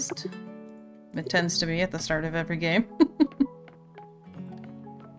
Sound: laughs

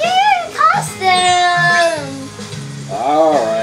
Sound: chimes as outfit changes

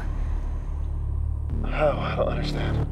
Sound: stammers

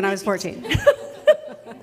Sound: laughs

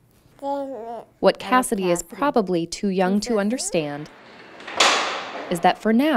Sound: door closes

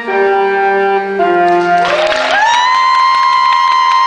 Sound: cheering continues

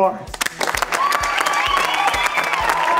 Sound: cheering

